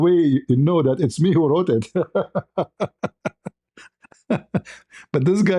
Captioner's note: ketawa